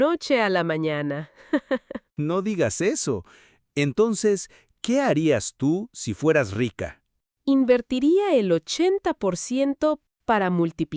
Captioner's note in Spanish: risas